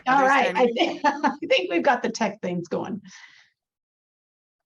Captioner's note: laughs